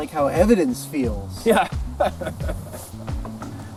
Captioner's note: laughs